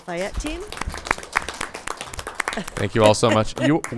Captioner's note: crowd applauding